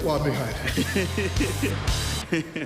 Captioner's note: laughing